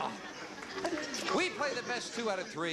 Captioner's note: scoffs